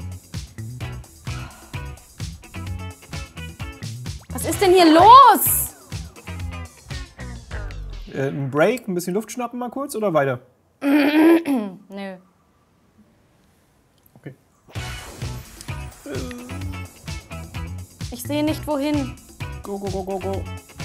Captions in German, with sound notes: Was ist denn hier los?! Äh, n' Break, ein bisschen Luft schnappen mal kurz, oder weiter? (Hüsteln) Nö. Okay. (Lebendige Musik) Ich sehe nicht, wohin. Go go go go go!